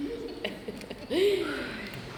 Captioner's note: sigh